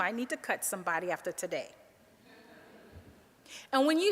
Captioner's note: audience laughing